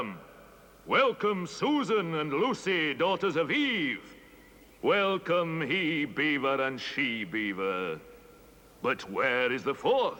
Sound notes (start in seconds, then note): none